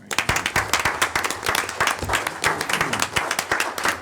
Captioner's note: audience applauding